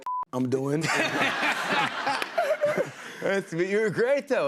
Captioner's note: laughter